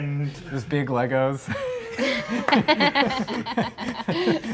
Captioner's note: laughing